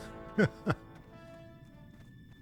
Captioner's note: laughs